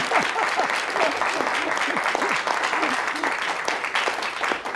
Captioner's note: applause